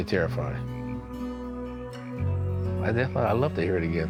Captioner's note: frogs ribbeting